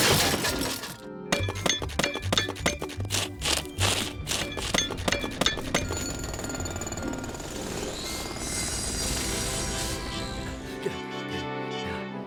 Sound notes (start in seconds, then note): 5.0 metal clanging and machines whirring